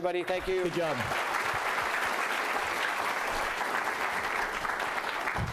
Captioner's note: applause